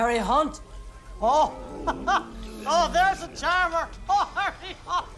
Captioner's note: laughs